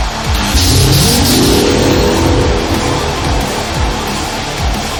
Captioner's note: electricity crackling; heavy rock music